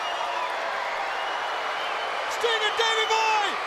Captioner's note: crowd cheering